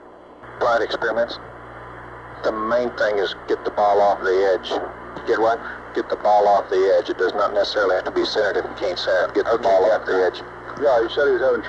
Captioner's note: mission Control Audio